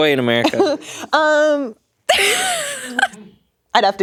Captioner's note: laughing